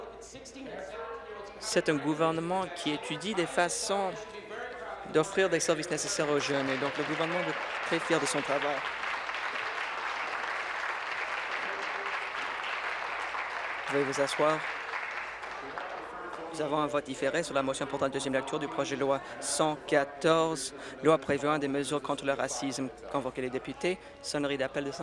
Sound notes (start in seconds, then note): 11.1 applause